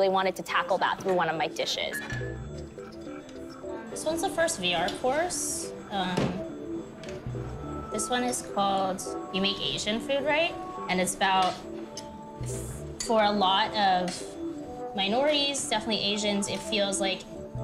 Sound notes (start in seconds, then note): 2.7 fork scraping; 5.2 ethereal music